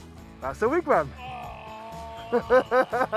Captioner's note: groans; laughs